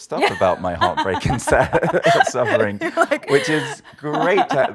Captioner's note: laughing